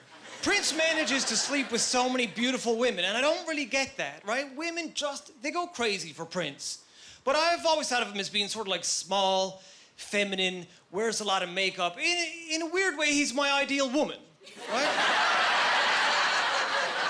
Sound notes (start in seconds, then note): 14.5 laughing